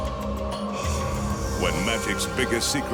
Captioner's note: mystical instrumental music continues; logo swishing